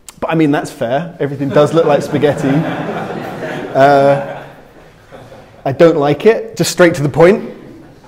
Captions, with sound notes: But I mean, that's fair. Everything does look like spaghetti. (crowd laughing) I don't like it, just straight to the point.